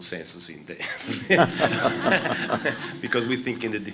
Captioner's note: laughter